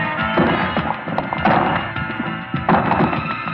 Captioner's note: banging